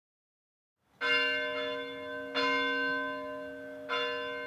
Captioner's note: bell ringing